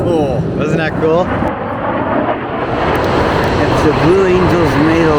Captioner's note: jets flying